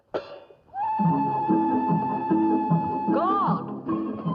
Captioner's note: railroad noise